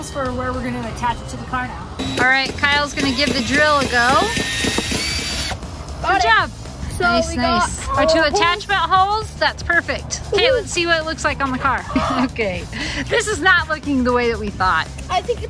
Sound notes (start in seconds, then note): 4.2 drill whirling; 12.9 gasps